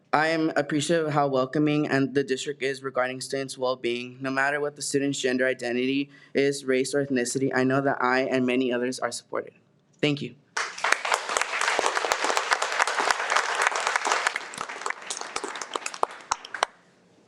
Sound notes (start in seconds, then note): 10.5 audience applauds